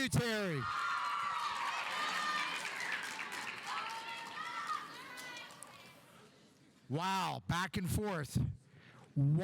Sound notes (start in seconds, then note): 0.6 audience cheering; 1.0 audience applauding